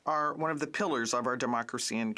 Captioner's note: speaking French